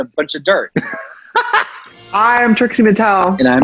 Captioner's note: laughs; classical music; chimes